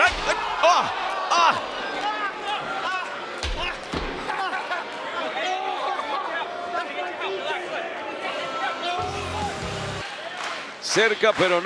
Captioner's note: applause